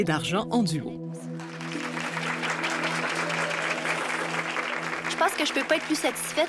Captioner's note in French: applaudissements